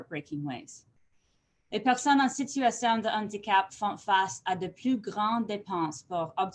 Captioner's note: french